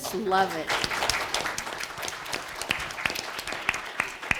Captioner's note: students clapping